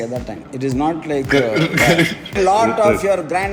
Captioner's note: laughs